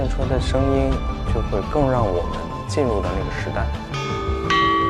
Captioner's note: chime Bells